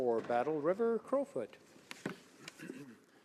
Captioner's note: speaking in french